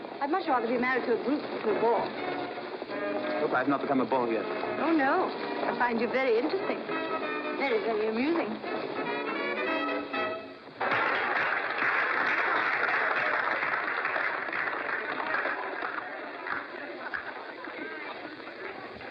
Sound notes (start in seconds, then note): 10.8 applause